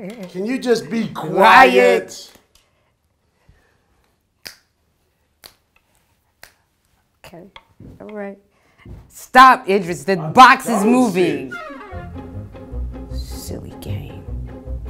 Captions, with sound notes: Can you be just quiet? (snapping fingers) - Okay, all right. Stop, Idris! The box is moving! (upbeat music) Silly game.